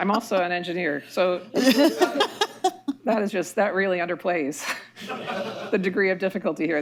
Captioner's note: laughter